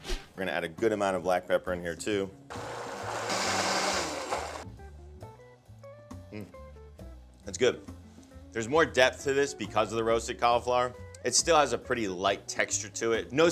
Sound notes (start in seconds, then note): 2.5 blender blending